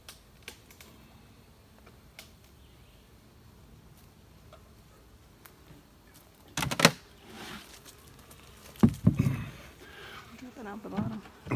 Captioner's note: honey dripping out the bottom